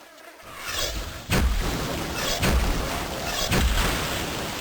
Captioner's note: whoosh! thock! whoosh! thock! whoosh! thock!